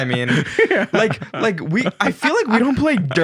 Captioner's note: laughing